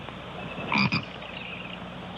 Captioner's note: frog croaking